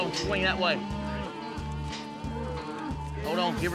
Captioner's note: mooing